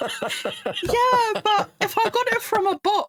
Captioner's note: laughing